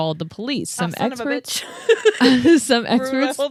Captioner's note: laughs